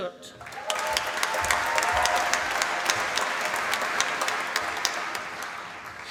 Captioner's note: applause